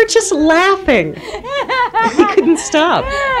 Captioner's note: laughing and music in background